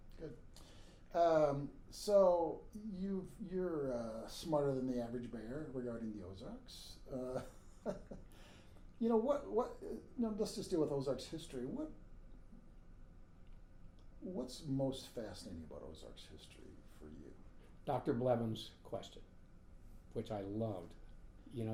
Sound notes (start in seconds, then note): 7.3 laughing